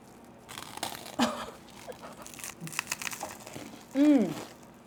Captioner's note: bruschetta crunches